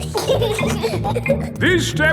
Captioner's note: giggling